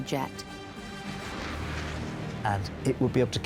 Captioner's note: jet engine roars